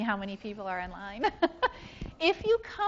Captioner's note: laughs